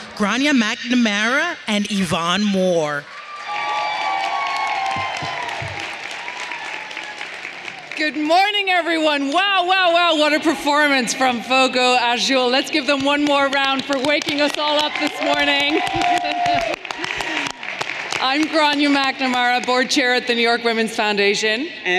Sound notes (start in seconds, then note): 3.0 audience cheering and applauding; 16.3 everyone cheering and applauding